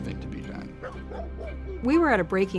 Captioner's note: dog barking